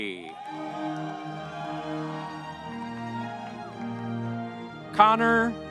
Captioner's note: audience cheering; bright music